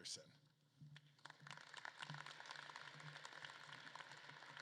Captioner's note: audience claps